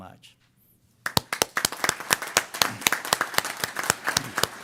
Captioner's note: applause